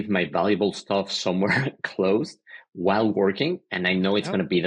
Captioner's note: laughing